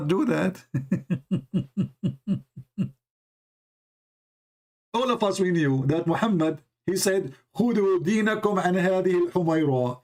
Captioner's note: Ketawa